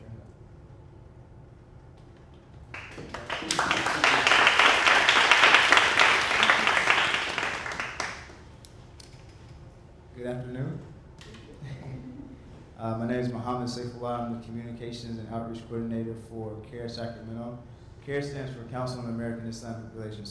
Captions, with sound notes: Thank you for sharing that. (audience applauding) Good afternoon. (chuckles) My name is Mohamed Sofuan. I'm the communications and outreach coordinator for CAIR, Sacramento. CAIR stands for Council on American-Islamic Population.